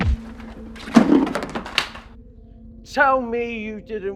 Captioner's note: Andrew's equipment clatters; fist thuds